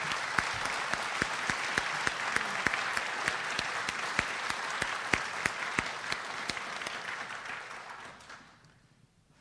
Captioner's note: audience applauds